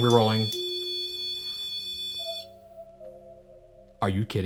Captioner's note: continuous beeping